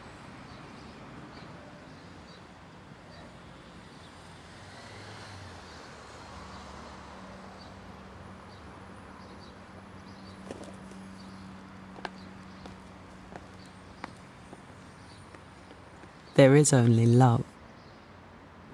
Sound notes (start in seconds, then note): 11.5 footsteps recede